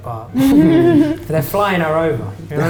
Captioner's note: laughter